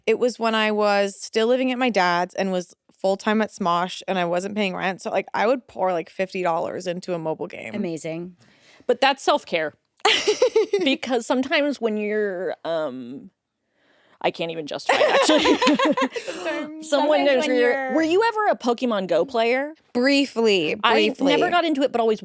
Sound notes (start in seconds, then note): 10.0 laughs; 14.9 all laughing